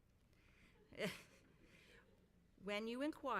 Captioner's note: laughs